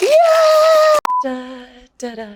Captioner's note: container rattles; beeps